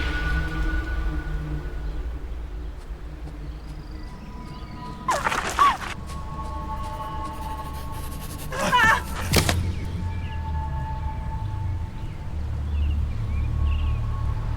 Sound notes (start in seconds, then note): 0.0 metallic echo, wind; 4.4 gravel scuffing, muted gasps; 8.4 yell, snapping